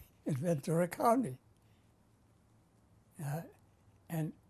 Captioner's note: laughs